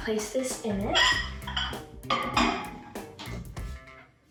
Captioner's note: dish clinks